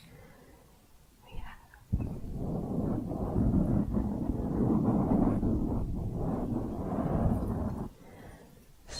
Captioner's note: dense mic scratching